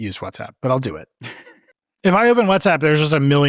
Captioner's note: laughing